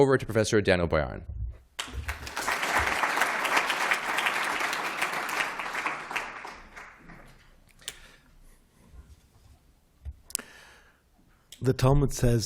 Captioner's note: applause